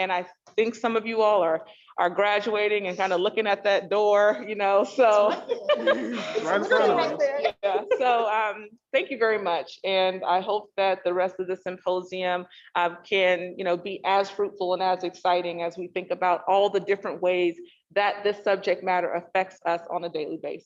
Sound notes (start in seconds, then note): 5.0 all laugh